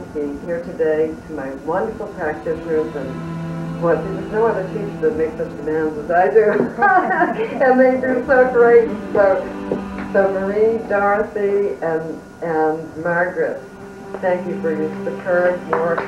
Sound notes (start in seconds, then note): 6.4 laughter; 15.6 applause